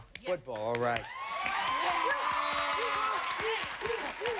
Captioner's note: cheering and applause